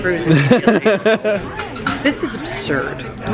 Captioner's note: laughing